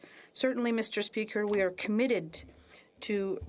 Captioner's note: speaking French